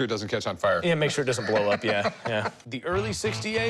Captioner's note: laughing